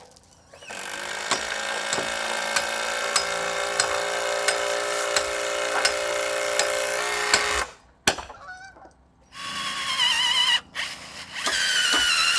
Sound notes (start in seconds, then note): 0.6 tool buzzing; 0.8 hammer banging; 9.3 drill buzzing